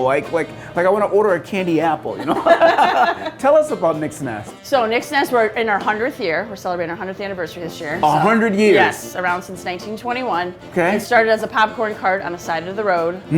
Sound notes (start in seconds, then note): 2.2 laughing